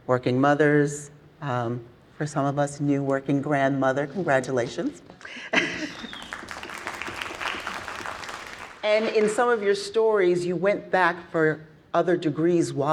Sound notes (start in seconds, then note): 5.2 chuckles; 5.8 everyone clapping